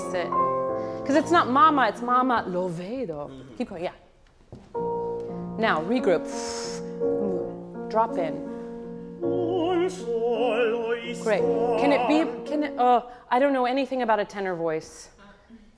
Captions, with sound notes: Release it. Cause it's not mama, it's mama (speaks in foreign language) Keep going. (slow piano music) Now regroup. Drop in. (singing in foreign language) Great. Can it? I don't know anything about a tenor voice.